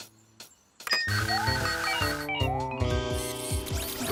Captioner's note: electronic beeping